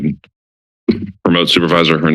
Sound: clears throat

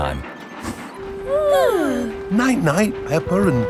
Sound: both yawning

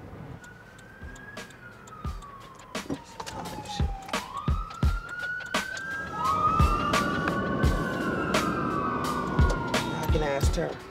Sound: police sirens

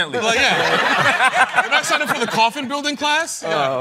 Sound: laughter

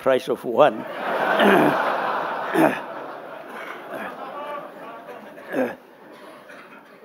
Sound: laughter

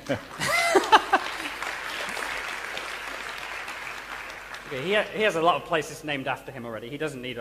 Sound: laughter and applause

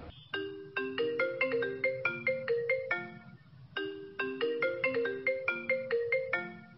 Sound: phone ringing

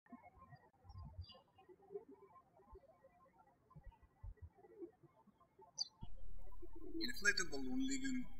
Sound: birds chirping

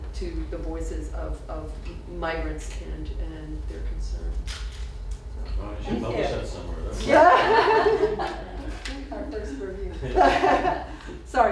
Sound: laughter

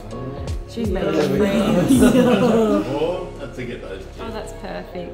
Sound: all laughing

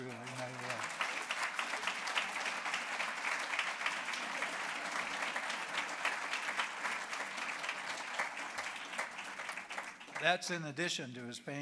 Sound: applause

